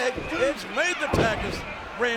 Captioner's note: blow thudding